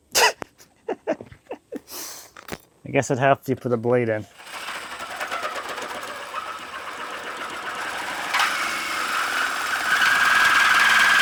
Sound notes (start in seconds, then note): 0.1 laughing; 4.3 machine rumbling